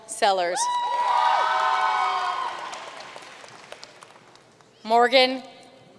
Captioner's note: audience cheering and applauding